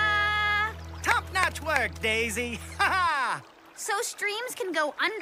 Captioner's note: laughs